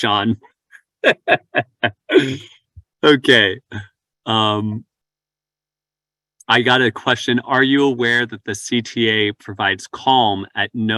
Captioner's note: laughs